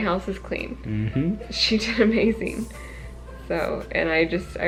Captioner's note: laughs